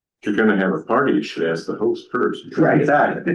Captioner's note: laughter